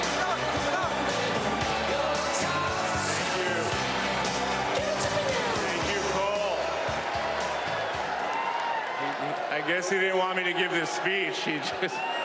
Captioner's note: applause